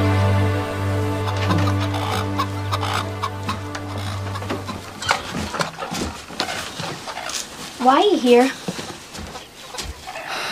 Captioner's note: chickens Clucking; sighs